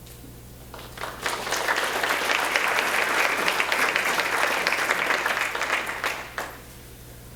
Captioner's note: applause